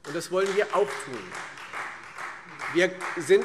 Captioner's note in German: Beifall Freie Demokraten